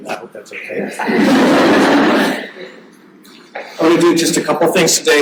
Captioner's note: audience laughing